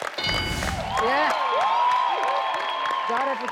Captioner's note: audience cheers; ding; audience cheers